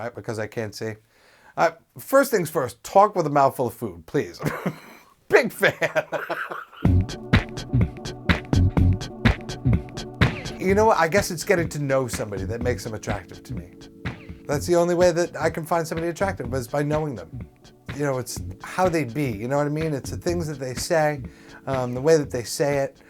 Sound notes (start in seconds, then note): 5.6 laughs; 6.9 music transition